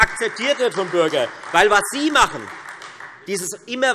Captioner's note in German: Beifall Freie Demokraten und AfD